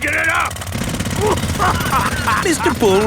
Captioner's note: laughing